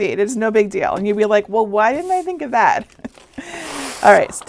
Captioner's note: chuckling